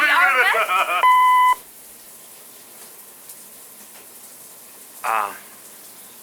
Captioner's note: Devon laughing; answering machine beeps